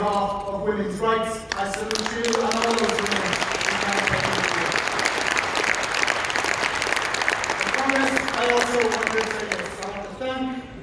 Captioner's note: applause